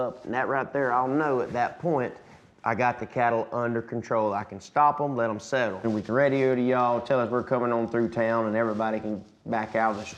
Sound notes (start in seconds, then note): none